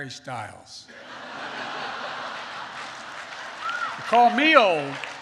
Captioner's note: laughter and applause